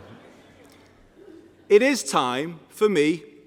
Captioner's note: laughter